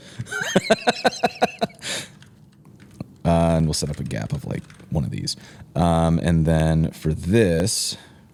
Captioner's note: laughter